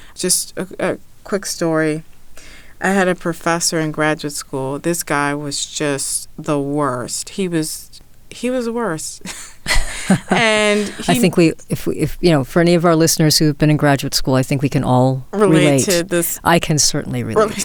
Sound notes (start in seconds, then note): 9.3 laughs